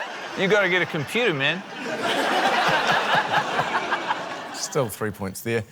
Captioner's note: laughter